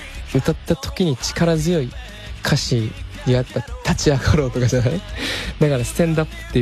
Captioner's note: laughs